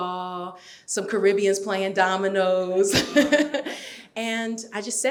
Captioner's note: laughs